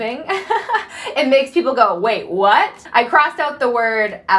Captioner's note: laughing